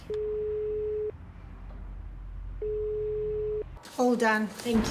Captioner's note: phone beeping